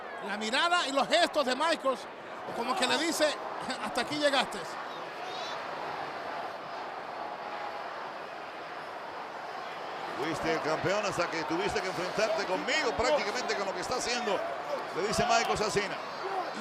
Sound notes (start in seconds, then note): 5.3 applause